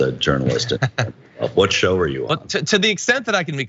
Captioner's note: laugh